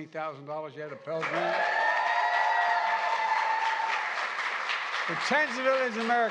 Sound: applause

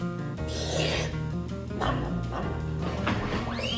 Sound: slurping

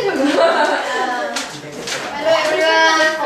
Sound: laughing

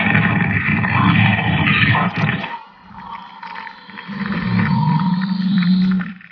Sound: bones cracking

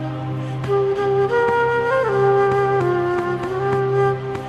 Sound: lemons thud softly

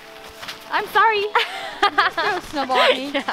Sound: giggles

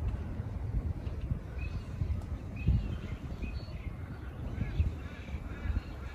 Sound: other bird calls can be heard in the distance

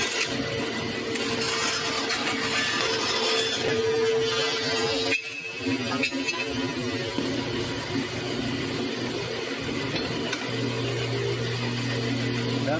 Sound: more cutting

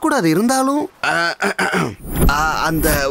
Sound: clears throat

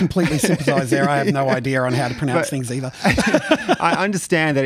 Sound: laughs

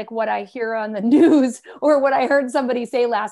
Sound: laughter

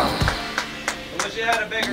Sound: clapping

